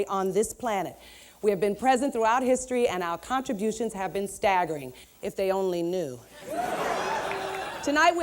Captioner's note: laughter